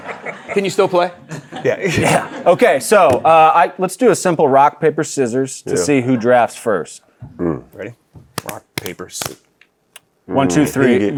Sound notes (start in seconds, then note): 1.4 laughs